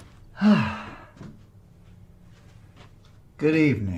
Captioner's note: door creaks; sighs